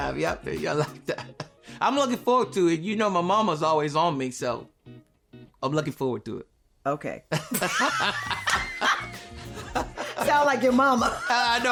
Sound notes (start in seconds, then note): 7.4 laughing